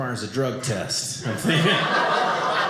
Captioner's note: audience laughing